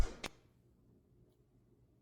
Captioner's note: static flipping